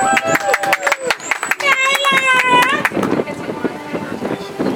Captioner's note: audience applauds